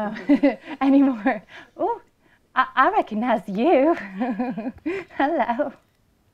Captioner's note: laughter; laughter